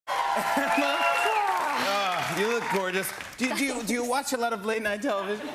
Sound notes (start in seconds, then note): 0.0 laughs